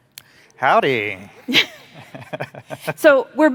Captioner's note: chuckling